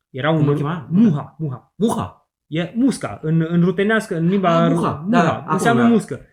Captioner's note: Ukrainian